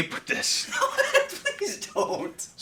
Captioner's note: laughing